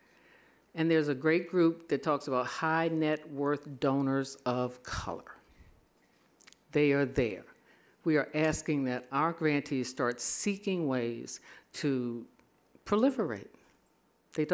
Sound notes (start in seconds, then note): none